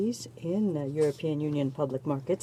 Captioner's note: speaking french